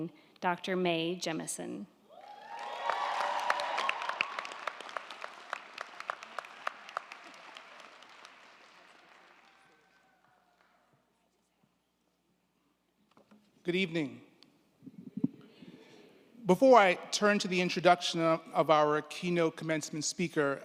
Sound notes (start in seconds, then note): 2.1 crowd cheering; 2.3 crowd clapping